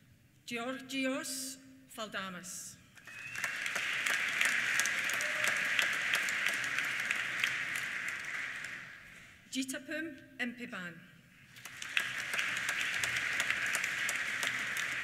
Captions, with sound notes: Georgios N Faldamis. (WHISTLING) (APPLAUSE) Jittaphoom Inphiban. (APPLAUSE)